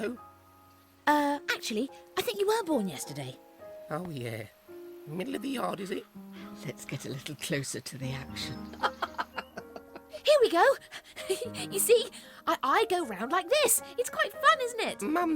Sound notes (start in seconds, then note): 8.6 chuckles